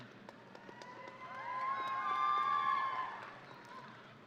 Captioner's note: audience cheering